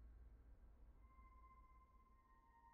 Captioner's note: none